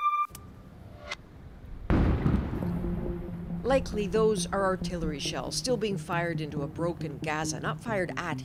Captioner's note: bombing